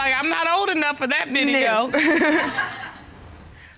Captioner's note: laughs